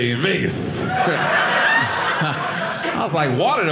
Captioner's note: audience laughing